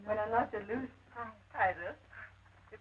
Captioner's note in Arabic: إسبيرانزا تتحدث الإسبانية